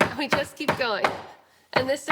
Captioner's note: pounding